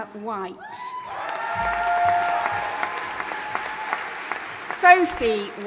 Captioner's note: audience applauding and cheering